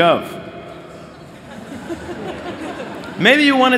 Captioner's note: laughter